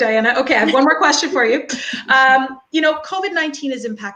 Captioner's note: laughing